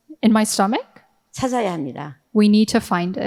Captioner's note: speaking in foreign language